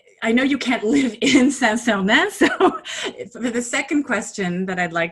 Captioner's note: laughing